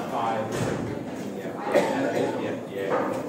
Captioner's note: person coughing